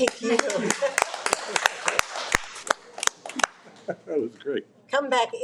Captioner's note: all applauding